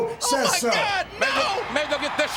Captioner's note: audience cheers